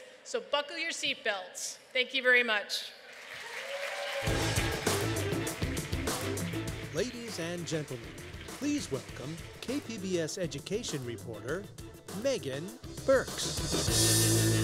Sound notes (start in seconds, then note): 3.0 applause